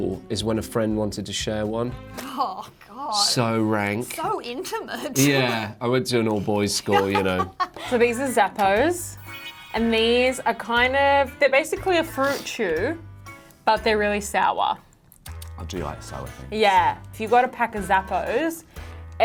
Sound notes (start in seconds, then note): 6.8 laughing